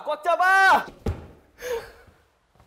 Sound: thud

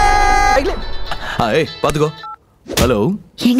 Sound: phone rings

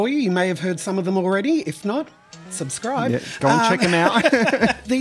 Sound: laughs

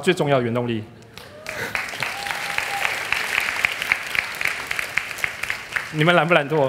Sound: applause

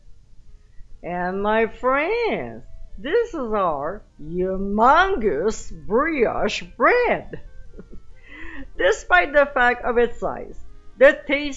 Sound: giggling

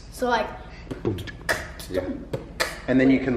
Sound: beat boxing

